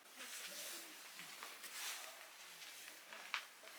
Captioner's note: shuffling